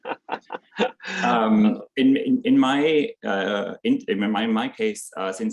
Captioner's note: chuckling